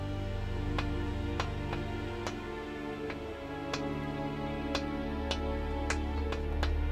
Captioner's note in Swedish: knackande